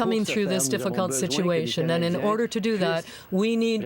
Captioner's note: speaking French